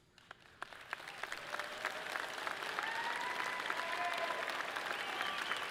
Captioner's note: audience clapping and cheering loudly